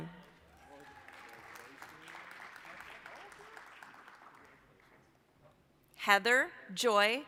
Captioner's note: applause